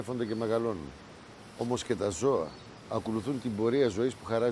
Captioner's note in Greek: ήχος από νερά και κελαηδίσματα πουλιών